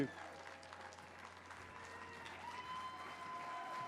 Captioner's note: crowd cheers